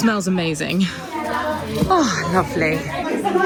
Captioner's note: people chatter; people laugh